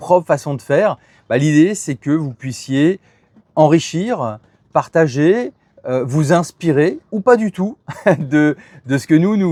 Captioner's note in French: rires